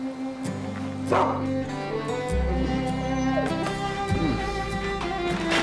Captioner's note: dog barking